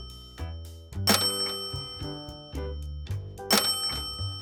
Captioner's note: alert chiming